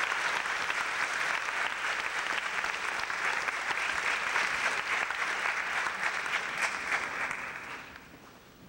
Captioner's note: clapping